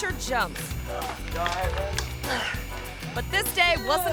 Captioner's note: groans